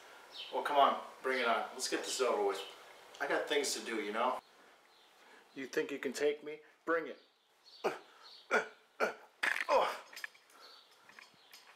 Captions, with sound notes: Well come on! Bring it on! Let's get this over with I got things to do you know You think you can take me? Bring it! *grunt* *grunt* *grunt* Ugh!